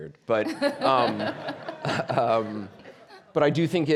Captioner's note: audience laughing